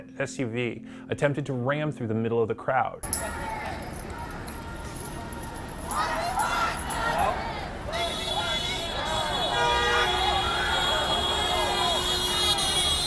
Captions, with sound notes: an SUV attempted to ram through the middle of the crowd. *Honking* *Screaming*